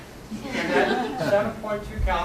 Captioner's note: laughter